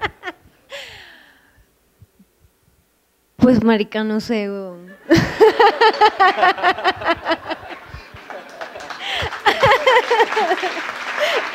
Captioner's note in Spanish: risas